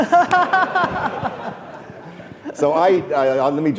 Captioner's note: laughing